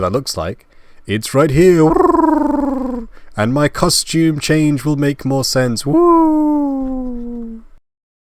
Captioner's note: weird purring like noise